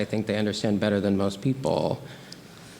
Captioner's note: none